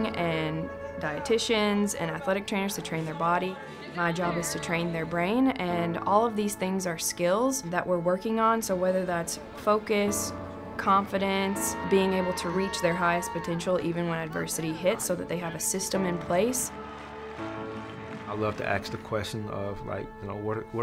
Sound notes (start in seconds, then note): 11.0 athletes cheering